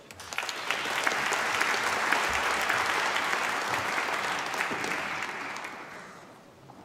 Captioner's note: applause